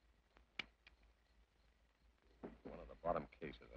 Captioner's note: gun clicks